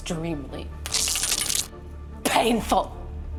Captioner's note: zapping